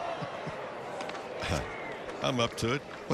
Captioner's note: laughter